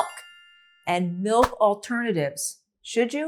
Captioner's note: graphic chiming; graphic whooshing